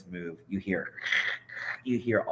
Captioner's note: imitates plastic rustling